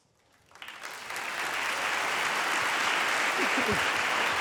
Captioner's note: audience applauding